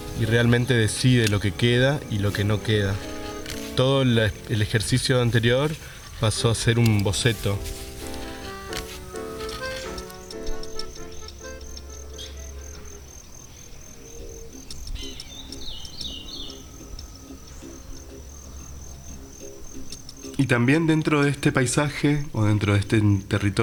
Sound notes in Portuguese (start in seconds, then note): 11.4 canto dos pássaros